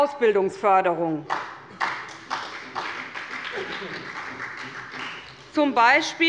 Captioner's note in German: Beifall bei Abgeordneten der SPD